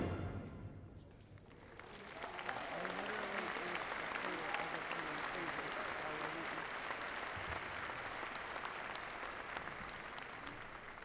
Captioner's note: applause